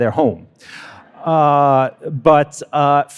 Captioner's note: attendees laughing